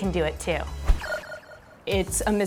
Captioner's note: video game beeping